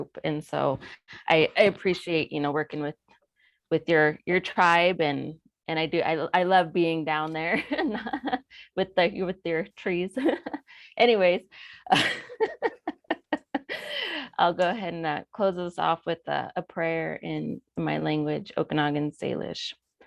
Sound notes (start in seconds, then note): 10.3 chuckles